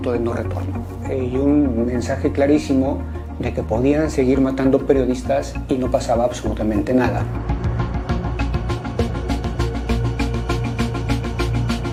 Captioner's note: speaking in Spanish